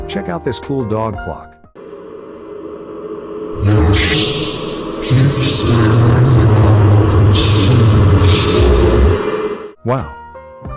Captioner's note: in a demonic voice